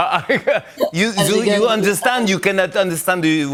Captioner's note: laughs; French accent